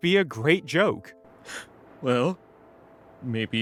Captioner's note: sniffles